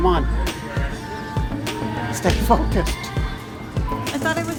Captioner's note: laughs